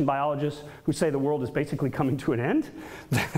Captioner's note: laughs